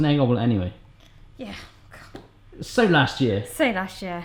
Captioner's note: scoffs